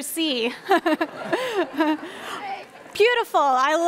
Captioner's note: laughing